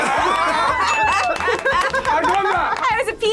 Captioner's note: group laughs